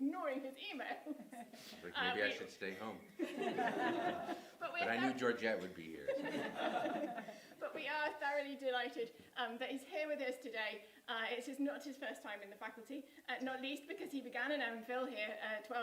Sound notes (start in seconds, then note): 7.3 laughter